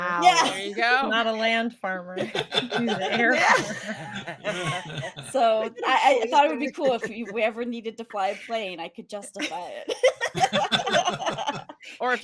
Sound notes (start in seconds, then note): 2.2 cast laughing; 10.0 cast laughing